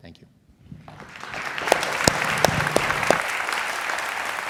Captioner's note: applause